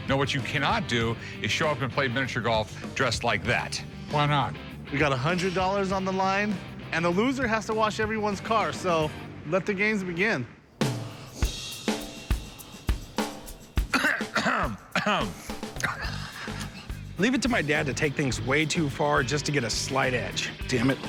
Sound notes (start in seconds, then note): 10.8 drum beat; 13.8 clears throat; 14.9 snickers